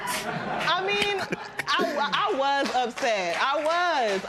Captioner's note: laughter